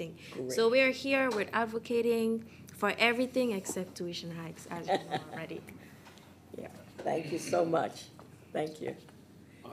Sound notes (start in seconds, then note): 4.7 laughing